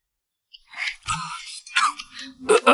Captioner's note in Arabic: سعال